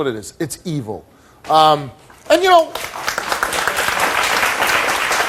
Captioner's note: audience applauds